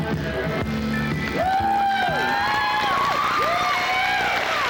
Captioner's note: cheers, applause